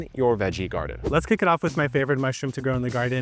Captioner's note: wind whipping